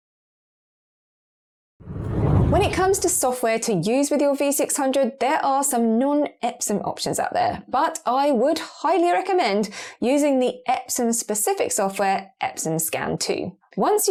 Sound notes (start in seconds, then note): 1.8 video effect whooshes